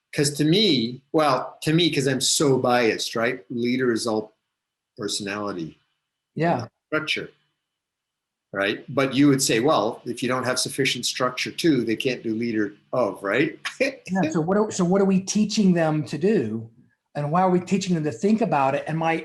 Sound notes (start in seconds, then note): 13.0 laughs